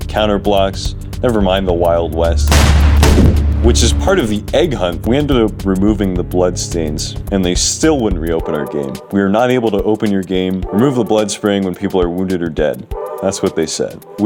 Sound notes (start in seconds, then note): 2.4 gunshots